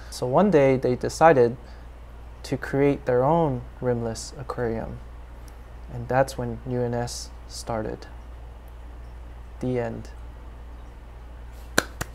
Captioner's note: applause